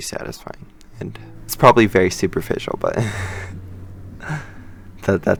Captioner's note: laughs